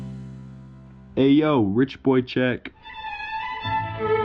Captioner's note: playful intro; voice-over; regal classical music